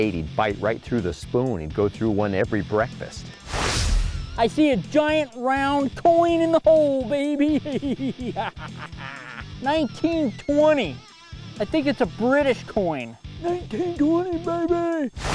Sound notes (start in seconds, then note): 3.4 whooshing; 7.4 laughs